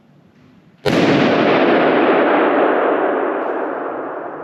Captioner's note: balloon banging